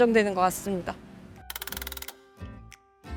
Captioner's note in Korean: 밝은 음악; 드르륵거리는 효과음